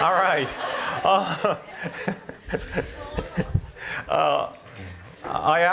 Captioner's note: laughter